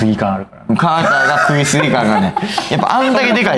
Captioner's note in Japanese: 笑い